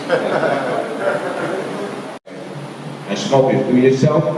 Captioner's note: laughing